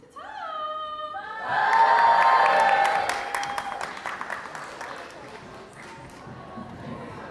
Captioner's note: audience cheers